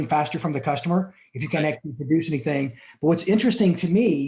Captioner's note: static audio